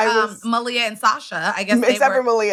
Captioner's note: laughs